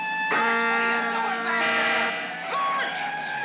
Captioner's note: siren wailing; horn blaring